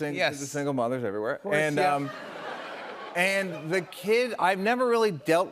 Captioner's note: laughter